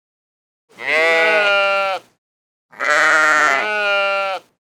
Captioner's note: sheep bleating